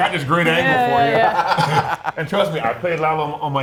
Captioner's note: laugh